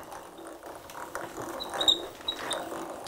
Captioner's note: squeaking